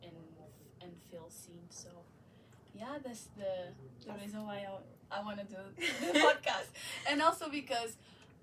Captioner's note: laughs